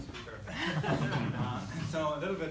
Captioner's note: laughter